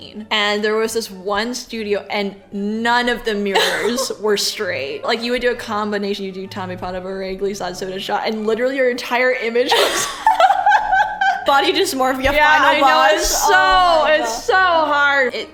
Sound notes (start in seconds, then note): 9.6 laughs